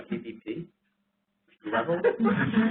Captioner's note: laughter